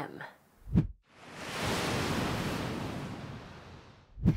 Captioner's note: sound of waves crashing